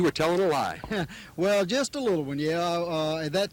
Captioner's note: laughs